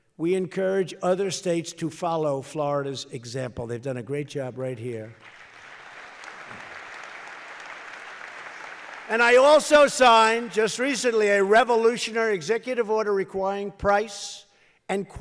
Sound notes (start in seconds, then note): 5.2 applause